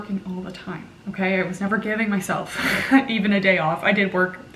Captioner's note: laughing